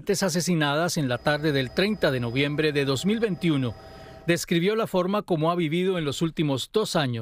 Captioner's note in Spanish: habla en ingés